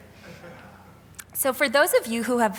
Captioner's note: audience member laughing